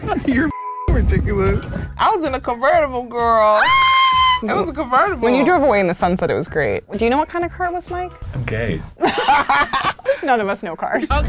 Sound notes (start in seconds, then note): 0.0 laughing; 0.5 beep; 3.5 screams; 9.0 both laughing